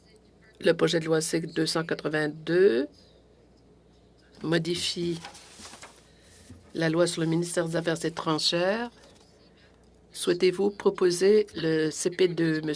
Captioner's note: speaking French